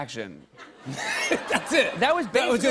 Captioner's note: laughter